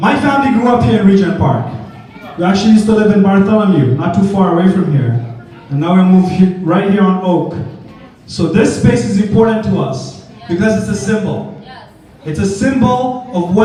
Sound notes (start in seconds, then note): none